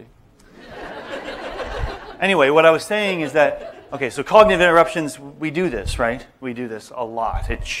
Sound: laughter

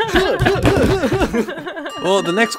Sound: punching noises

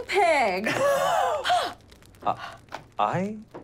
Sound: gasps

